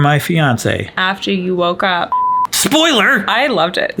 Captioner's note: beeps